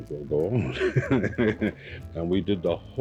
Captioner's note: laughing